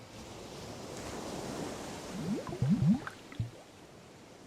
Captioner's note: waves crashing